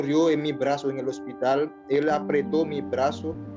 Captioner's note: speaking Foreign Language